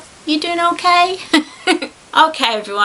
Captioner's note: giggles